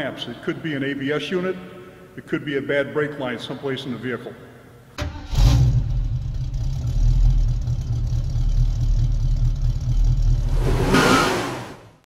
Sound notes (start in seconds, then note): 4.9 engine Revving; 10.4 tires Squeeling